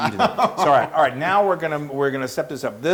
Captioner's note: laugh